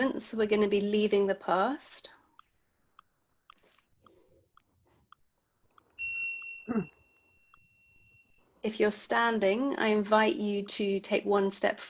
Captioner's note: bell sound